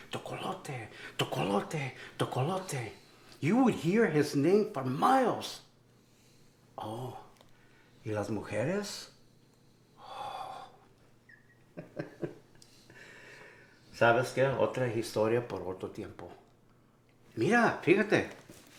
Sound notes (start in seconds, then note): 0.1 Spanish; 6.6 Spanish; 11.3 laughs a bit; 13.8 Spanish